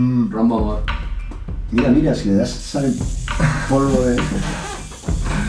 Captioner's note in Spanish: Risas